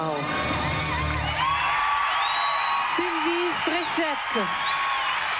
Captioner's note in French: acclamations